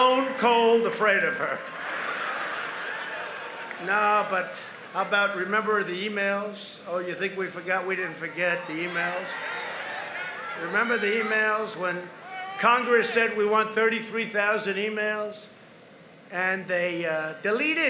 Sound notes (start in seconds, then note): 1.6 applause; 6.2 laughter